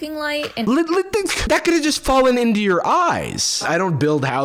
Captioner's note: stammering